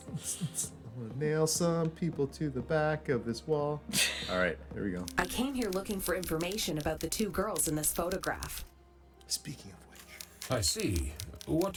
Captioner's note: laughs